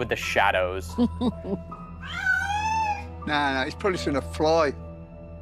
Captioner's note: Sharon laughs; meows